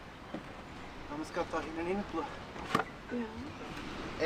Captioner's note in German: auf Schweizerdeutsch